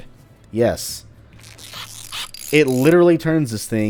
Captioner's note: tinkering noises